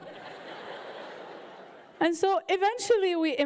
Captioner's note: audience laughing